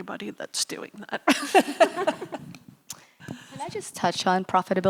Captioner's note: laughing